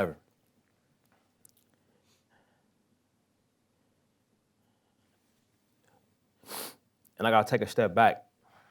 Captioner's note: pause